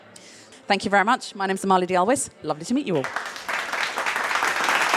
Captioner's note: audience applauds